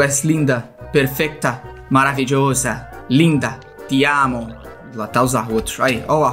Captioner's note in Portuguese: em "espanhol"